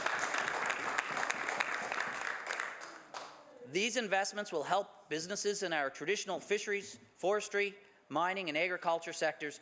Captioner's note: some Applause